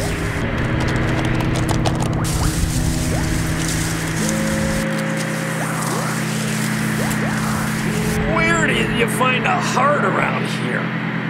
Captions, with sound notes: (key clacking loudly) (film rustling loudly) - Where do you find a heart around here?